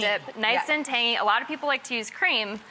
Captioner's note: none